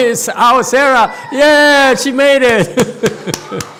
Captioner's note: laughs and claps hands